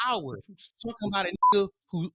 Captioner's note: beep